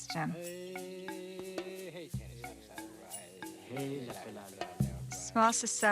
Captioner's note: gentle music; man humming